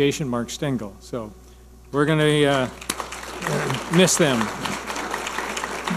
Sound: audience applauding

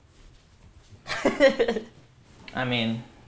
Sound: laughs

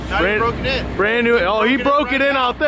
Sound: laughs

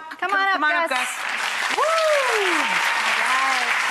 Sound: applause

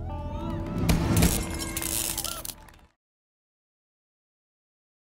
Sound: audience clapping

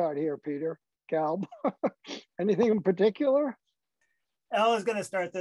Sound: laughter

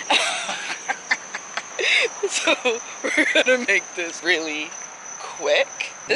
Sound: laughing

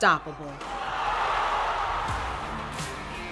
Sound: crowd cheers; upbeat music plays

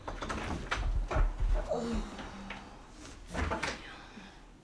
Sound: door opens, closes

